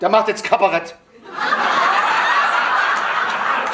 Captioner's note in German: schrilles Lachen